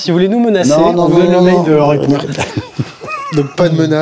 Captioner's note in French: rires